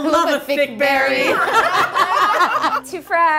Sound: laughter

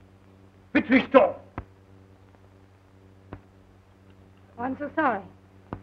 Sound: speaking russian

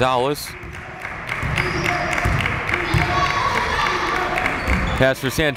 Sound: crowd chanting defense

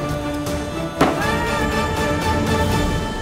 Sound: banging

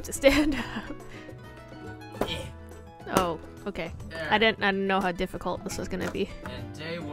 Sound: grunts

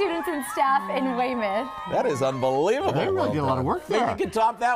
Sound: cheers and applause

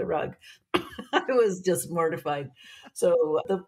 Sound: chuckling

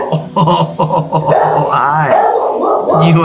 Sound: laughs

